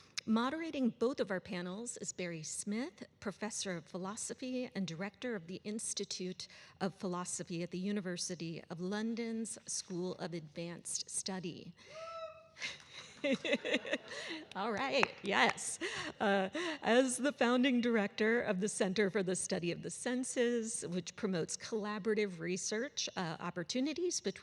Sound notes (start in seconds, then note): 12.6 laughing